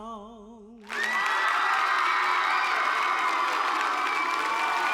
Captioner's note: cheers and applause